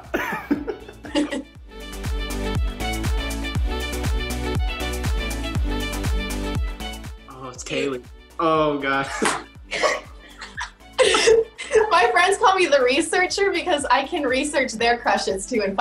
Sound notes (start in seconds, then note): 0.0 Kaylee laughing; 0.0 Quincy laughing; 2.5 upbeat music; 9.7 Kaylee laughing